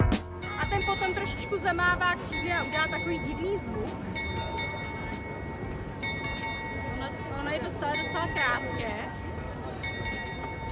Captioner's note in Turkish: saat çalıyor